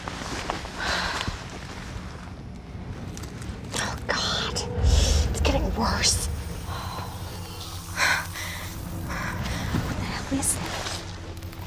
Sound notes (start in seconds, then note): 0.2 sighs; 7.2 breathing heavily